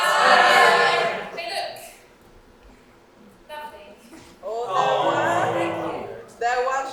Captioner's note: audience awwws and boos